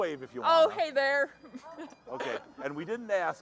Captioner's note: chuckling